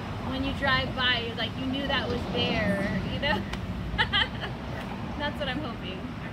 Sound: laughs

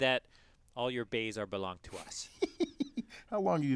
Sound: laugh

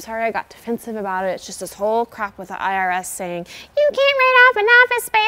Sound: mockingly

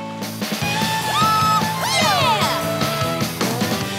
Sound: cheering

